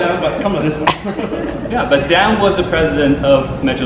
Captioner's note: audience laughs